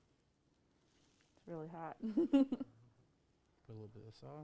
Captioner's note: laughs